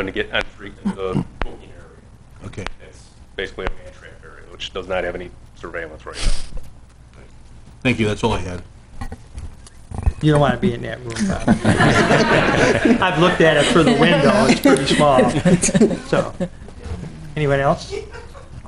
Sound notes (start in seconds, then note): 11.1 laughter